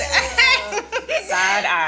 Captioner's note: laughs